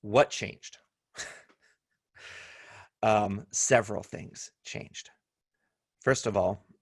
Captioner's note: laughter